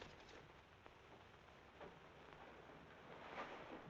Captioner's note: curtain rustling